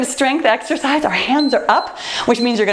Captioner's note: timer beeps